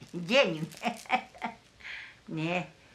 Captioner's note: laughs